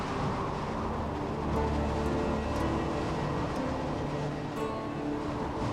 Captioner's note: wind howling